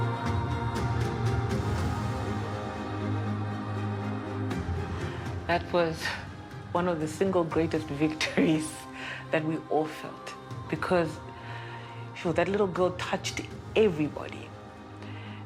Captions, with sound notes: That was one of the single greatest victories... [chuckles] that we all felt. Because... Wow, that little girl touched everybody.